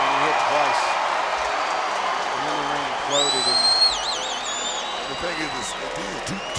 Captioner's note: crowd cheers and claps